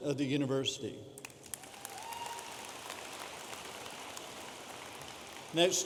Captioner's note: audience applauding